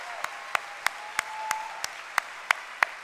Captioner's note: cheering and applause